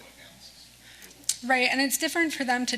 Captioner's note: speaks faintly